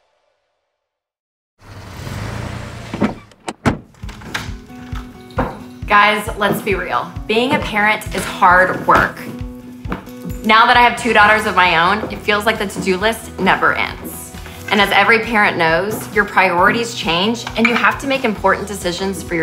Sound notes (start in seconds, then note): 1.6 engine running; 4.0 lively music